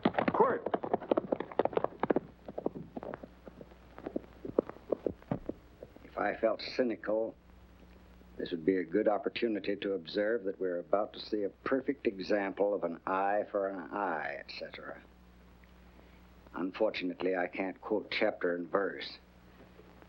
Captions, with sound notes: - Quirt! (hooves racing away) - If I felt cynical, this would be a good opportunity to observe that we are about to see a perfect example of an eye for an eye, et cetera. Unfortunately, I can't quote chapter and verse.